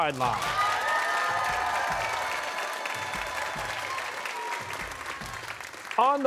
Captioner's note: cheers and applause